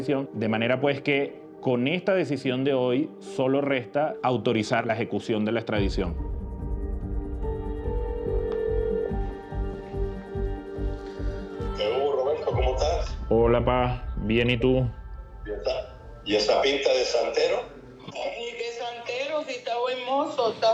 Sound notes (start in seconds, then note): 7.8 phone line ringing; 11.4 on phone; 15.3 on phone